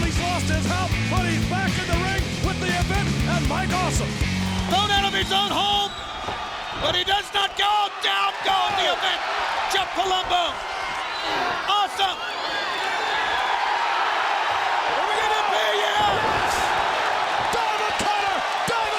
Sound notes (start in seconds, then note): 13.1 audience cheers